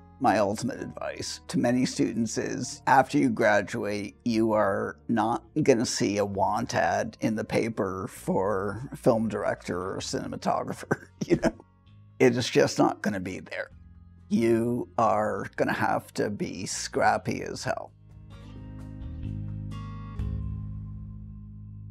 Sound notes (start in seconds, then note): 10.8 chuckles